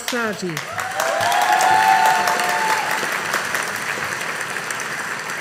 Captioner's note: audience applauding